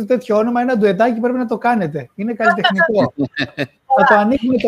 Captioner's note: γέλια